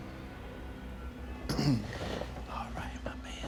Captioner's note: clears throat